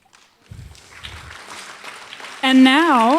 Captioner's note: applause